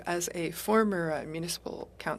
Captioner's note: speaking French